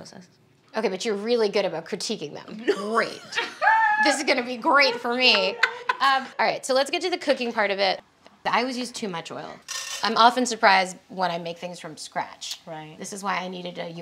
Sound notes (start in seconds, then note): 2.8 laughing